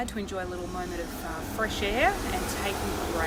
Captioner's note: traffic passing